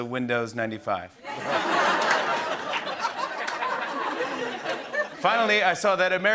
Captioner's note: laughter